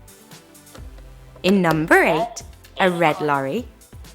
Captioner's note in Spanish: Suena una voz en Coreano